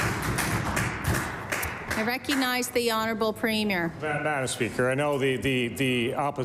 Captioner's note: applause